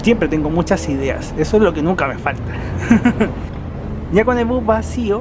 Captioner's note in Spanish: risas